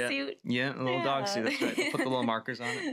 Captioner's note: laughs